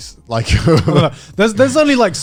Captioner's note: chuckling